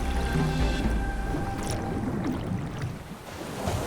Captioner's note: water splashing